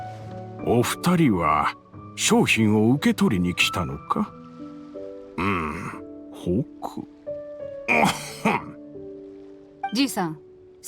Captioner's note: cough